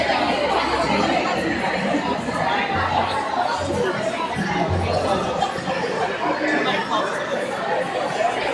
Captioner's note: crowd chattering